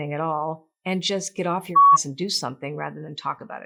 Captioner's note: beep